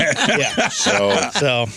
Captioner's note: laughter